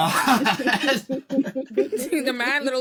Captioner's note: laughter